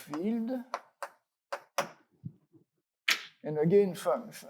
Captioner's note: chalk taps